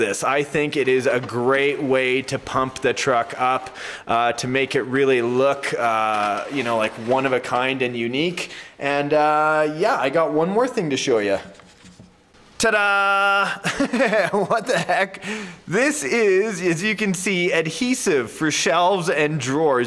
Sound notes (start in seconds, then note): 13.4 instructor laughs